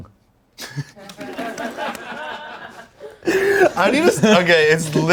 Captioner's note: everyone laughs